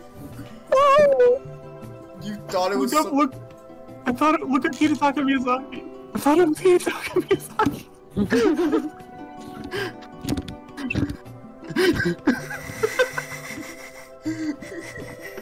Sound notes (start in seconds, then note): 8.1 laughter